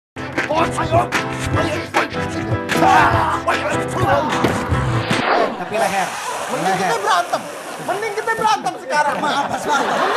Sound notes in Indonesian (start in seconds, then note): 0.4 Suara Pertarungan